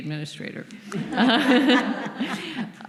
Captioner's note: laughter